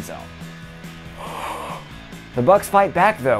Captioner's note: big yawn